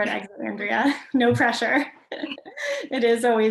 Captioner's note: laughs